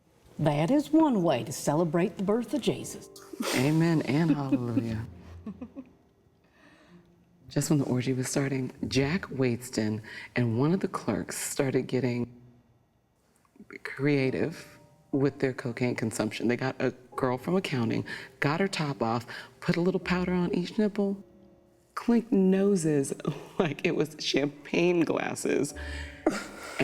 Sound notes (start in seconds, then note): 5.2 chuckles